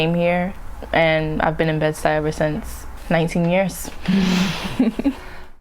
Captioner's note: laughs